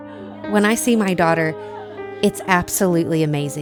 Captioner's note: nurses laughing